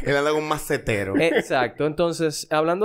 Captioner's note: laughs